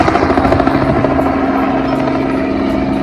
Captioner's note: helicopter noise